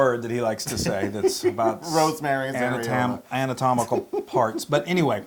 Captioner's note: laugh